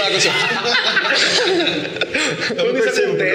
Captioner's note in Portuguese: risos